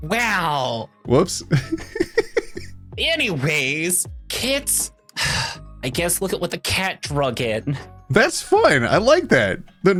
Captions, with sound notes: Wow. Whoops. (laughing) Anyways, Kits, I guess look at what the Kat drug in. That's fine. I like that.